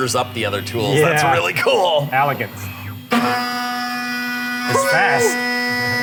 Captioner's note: machine buzzing